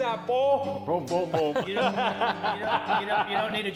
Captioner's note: laughs